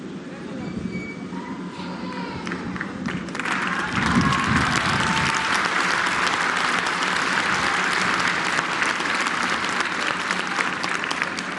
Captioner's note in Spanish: aplausos